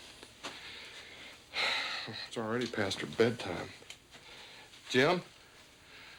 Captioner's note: stan sighs